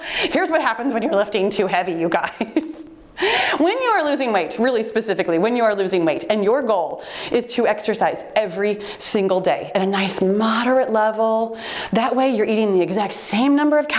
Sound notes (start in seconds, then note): 2.9 laughing